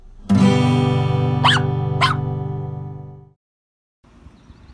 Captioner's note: puppy barking